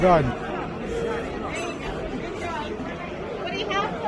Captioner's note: crowd noise